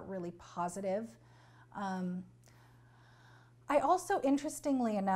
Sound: pauses for 3 seconds

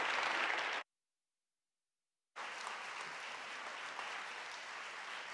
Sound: audience clapping

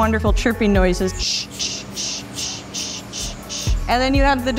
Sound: mimicking chirping

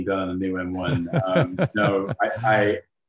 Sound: laughs

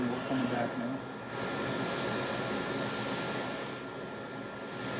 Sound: air blows

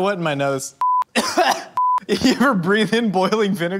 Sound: coughs

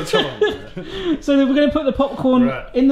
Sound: laughs

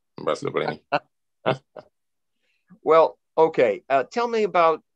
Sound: laughs

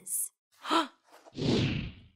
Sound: exclaiming loudly; dramatic whooshing

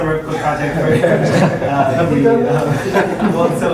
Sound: laughter

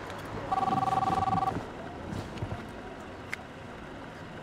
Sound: phone ringing

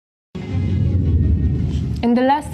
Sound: air whooshing; faint music

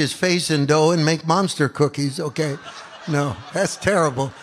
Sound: audience laughs

